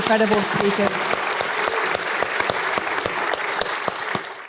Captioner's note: applause